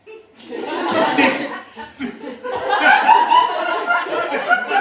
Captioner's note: laughter